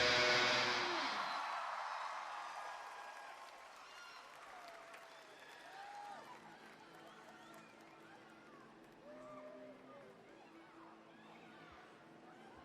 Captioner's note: crowd cheering